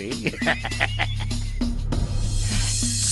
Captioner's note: laughing